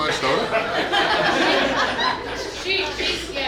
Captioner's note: hahaha